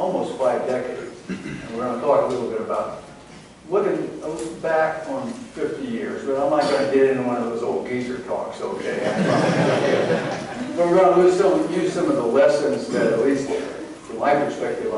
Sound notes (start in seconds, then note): 8.9 laughter